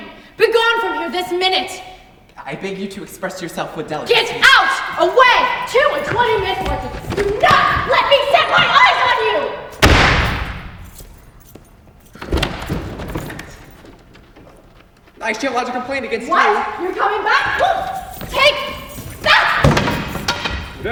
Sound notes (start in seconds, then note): 9.8 door slams; 12.3 door opens; 18.0 pole clatters to the ground